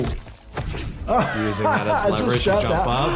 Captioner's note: laughs